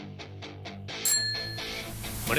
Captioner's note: Call bell dings